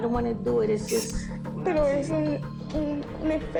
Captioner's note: speaking Spanish